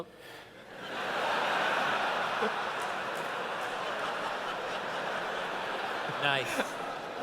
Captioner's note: laughter